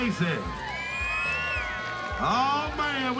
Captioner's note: crowd cheers, claps